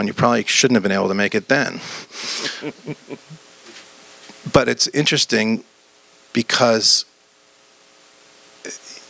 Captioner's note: laughs